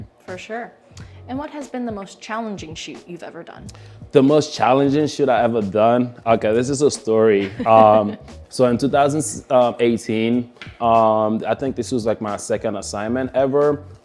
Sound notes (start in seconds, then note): 7.4 laughs